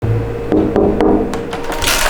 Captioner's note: knock knock